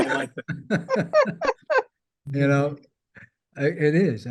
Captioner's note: all chuckling